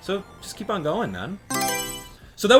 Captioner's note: Mario Selection Sound